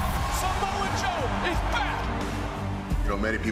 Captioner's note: audience cheering